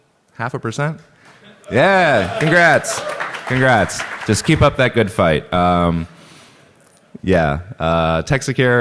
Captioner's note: laughing